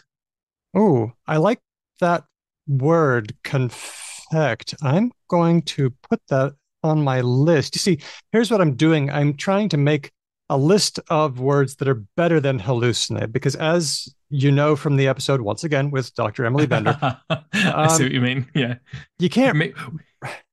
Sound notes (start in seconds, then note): 16.6 laughs